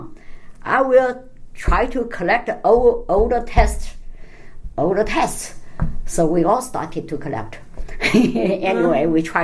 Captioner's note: laughs